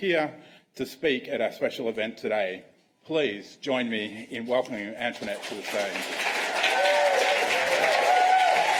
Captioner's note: applause